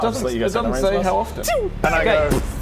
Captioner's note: pew pew